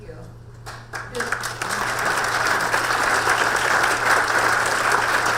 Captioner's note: audience applause